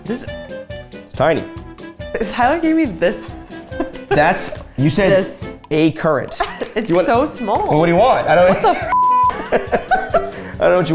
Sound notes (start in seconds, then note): 8.9 beep; 9.2 both laugh